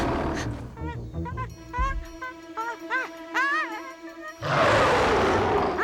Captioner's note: Scarface growls; Stink whimpers; Scarface snarls